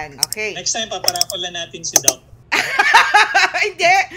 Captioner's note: laughter